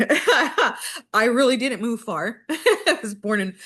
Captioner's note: laughs